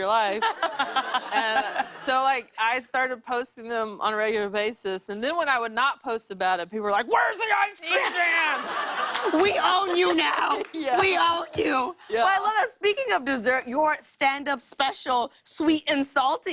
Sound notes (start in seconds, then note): 9.8 laughter